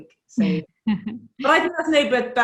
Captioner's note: laughs